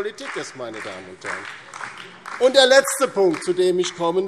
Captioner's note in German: Beifall DIE LINKE und vereinzelt SPD